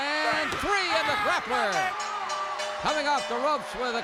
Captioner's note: bell rings